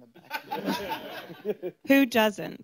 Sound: laughter

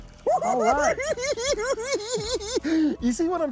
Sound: cackling

